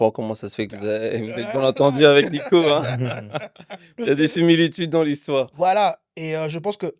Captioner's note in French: rires